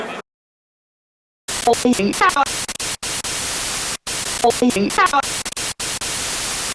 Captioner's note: TV/radio static sounds